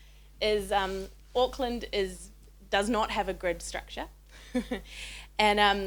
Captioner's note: chuckles